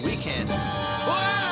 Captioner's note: radar beeps